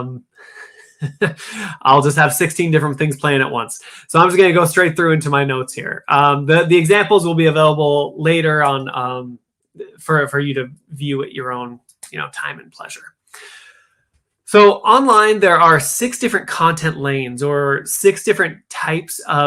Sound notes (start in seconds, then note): 2.4 laughter